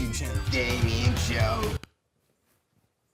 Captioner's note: voiceover